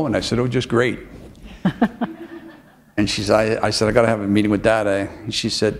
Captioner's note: chuckle